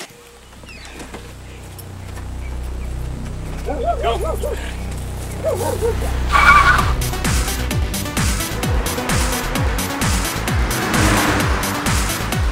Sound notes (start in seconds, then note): 0.1 door clicking closed; 1.4 tense dramatic music; 5.3 dog barking; 6.4 movie mobile tires screeching; 8.9 movie mobile engines roaring proudly